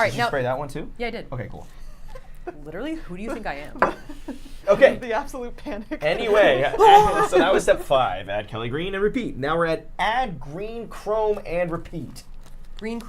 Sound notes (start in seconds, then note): 1.9 chuckling; 5.9 laughs